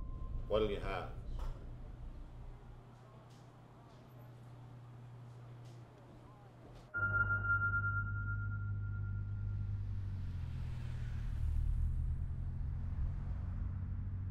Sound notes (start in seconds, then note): 6.9 somber piano music; 7.2 engine hums